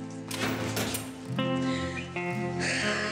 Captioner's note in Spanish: Ruido en la puerta